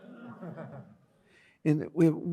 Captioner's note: audience laughs